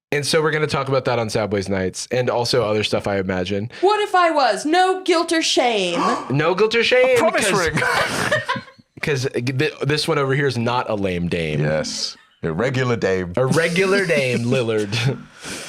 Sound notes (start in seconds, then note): 5.9 gasps